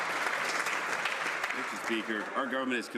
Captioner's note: some Applause